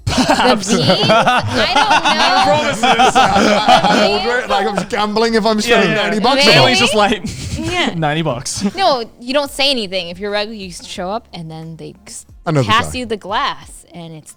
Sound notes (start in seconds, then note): 0.0 laughing; 4.4 laughs